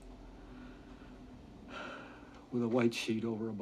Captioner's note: sighs